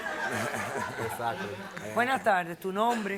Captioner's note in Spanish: Risas del público